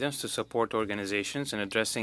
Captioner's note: speaking French